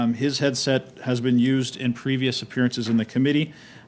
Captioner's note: speaking French